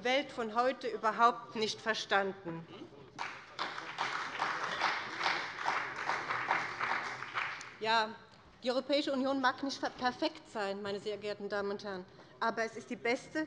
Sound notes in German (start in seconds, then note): 3.1 Beifall bei dem BÜNDNIS 90/DIE GRÜNEN und der CDU